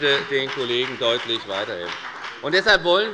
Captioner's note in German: Beifall bei der FDP